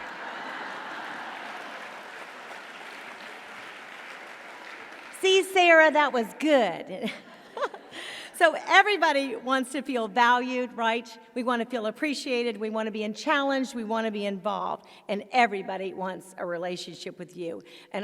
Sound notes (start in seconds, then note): 0.0 audience applauding; 7.0 chuckles